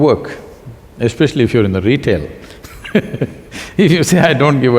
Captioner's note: laughs